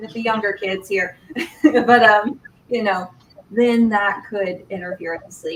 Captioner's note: laughter